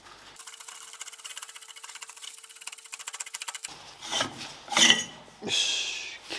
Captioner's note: working sound